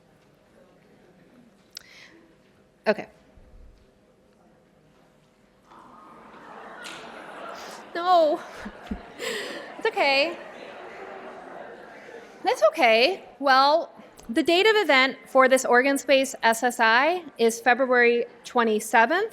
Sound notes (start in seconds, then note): 8.7 laughter